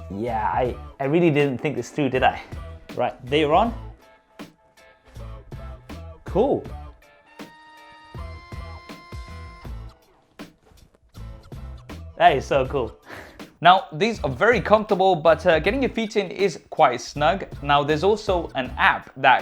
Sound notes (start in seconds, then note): 7.2 buzzing